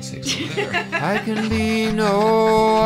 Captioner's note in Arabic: يضحك